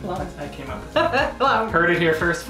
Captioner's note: chuckles